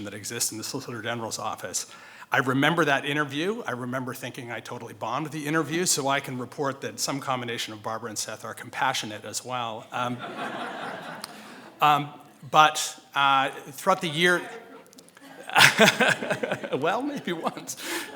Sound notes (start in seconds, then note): 10.0 audience laughing; 14.1 laughing